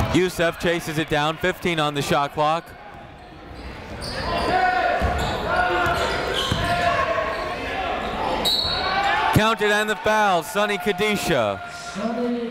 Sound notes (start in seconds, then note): 3.3 chatter; 8.4 whistle